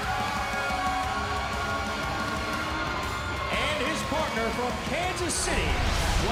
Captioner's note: crowd cheering; crowd chatter